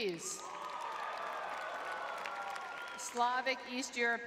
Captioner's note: crowd cheering